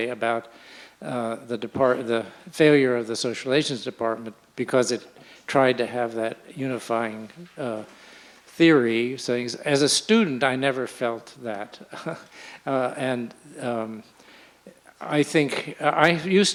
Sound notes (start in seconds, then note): 11.9 chuckles